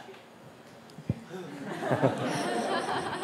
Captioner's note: laughter